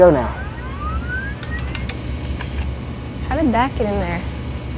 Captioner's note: machine powering up